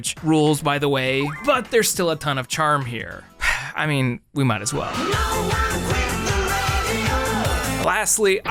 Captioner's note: sigh